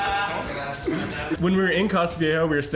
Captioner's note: speaks in foreign language